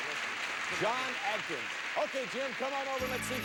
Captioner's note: audience applauding